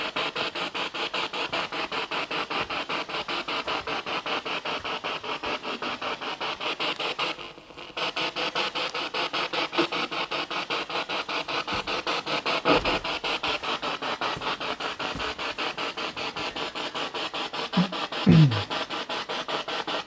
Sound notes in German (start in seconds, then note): 0.8 Noise of the spiritbox in the background